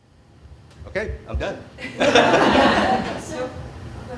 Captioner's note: laughing